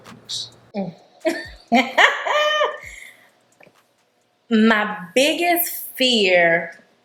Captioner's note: laughing